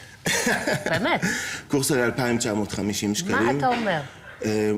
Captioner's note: laughter